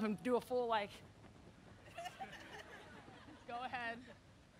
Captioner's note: audience laughing